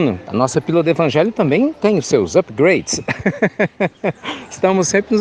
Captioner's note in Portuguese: risos